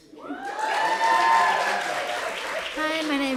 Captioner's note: applause